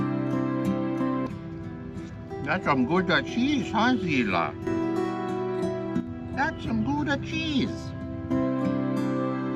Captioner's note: horrible Italian accent